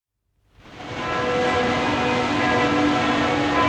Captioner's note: bells ring out